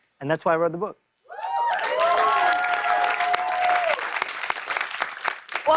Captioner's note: cheers and applause